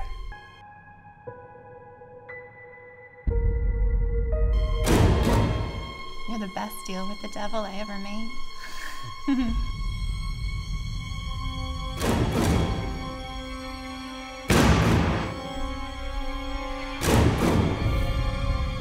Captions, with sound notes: You're the best deal with the Devil I ever made. (laughs) [Intense music builds] [explosion]